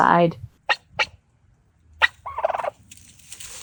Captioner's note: Frida chirping excitedly